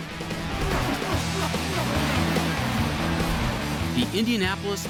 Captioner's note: race car engines roar